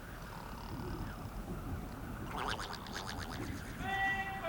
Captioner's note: snoring